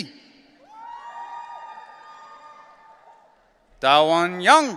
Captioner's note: audience cheering